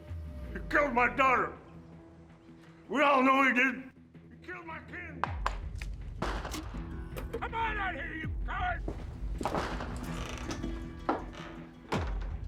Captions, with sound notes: You killed my daughter. We all know you did. You killed my kin. [FIRES ANOTHER GUNSHOT IN AIR] Come on out here, you coward! [DOOR CREAKS, SWINGS]